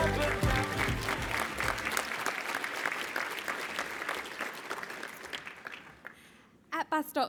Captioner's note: applause